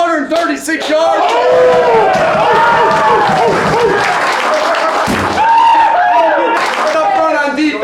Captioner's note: cheering